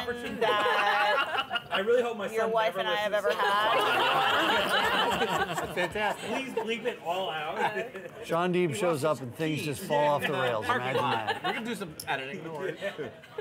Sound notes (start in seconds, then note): 3.2 laughter